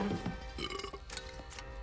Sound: burping

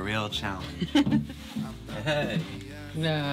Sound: laughing

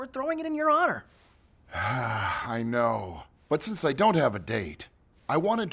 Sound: sighs

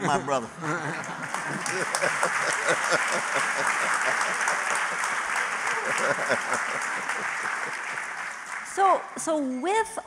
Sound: applause

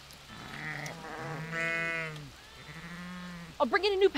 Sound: sheep BAAA-ing

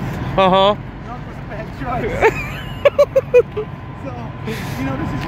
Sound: laughs

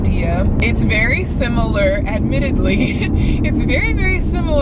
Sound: chuckles

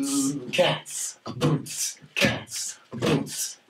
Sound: all beatboxing

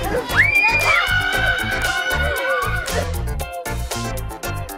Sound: dad screams; upbeat music

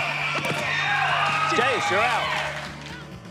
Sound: whistle blows

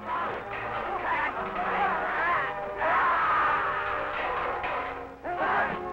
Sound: fast-paced orchestral music; troops shouting; furniture crashing

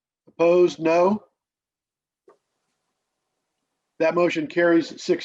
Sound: silence

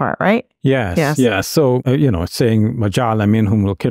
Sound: speaking Arabic

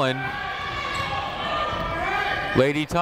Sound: people shouting in the crowd

